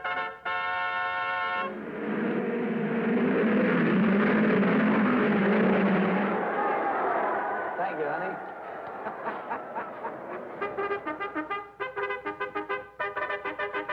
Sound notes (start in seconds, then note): 1.6 cars revving; 9.6 crowd cheering